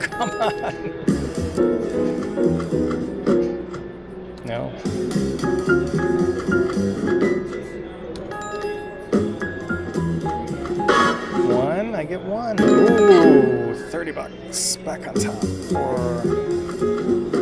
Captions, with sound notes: Oh, come on! (playful jazz music) No. (playful jazz music) (bell dings) (playful jazz music) One, I get one, ooh $30 bucks! Back on top, for